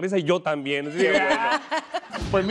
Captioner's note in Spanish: Risas